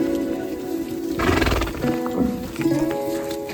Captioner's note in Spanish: resoplido de caballo